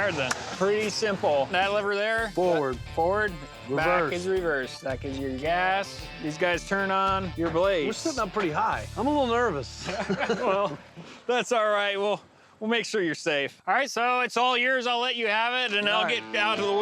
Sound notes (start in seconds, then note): 9.8 laughing